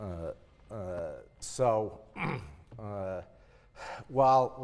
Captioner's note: cough